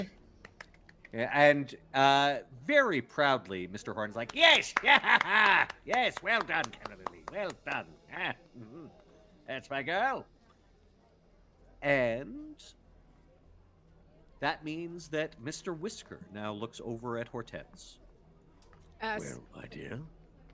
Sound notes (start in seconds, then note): 4.6 laughing